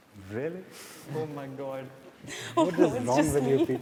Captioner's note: chuckles